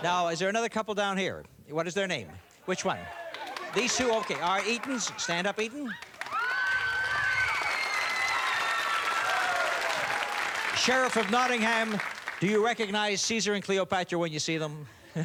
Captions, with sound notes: Okay, now there is another couple down here? What is their name? Which one? These two, okay. Eatons? Stand up, Eaton. (cheers and applause) Sheriff of Nottingham, do you recognize Caesar and Cleopatra when you see them?